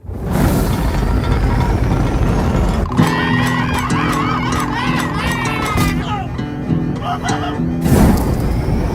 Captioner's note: back to chaos and screaming